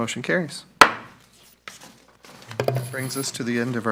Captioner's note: thumps loudly